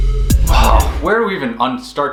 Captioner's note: sighs